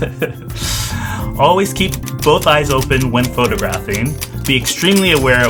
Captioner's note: laughs